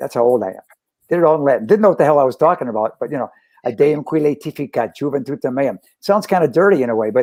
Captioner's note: speaks Latin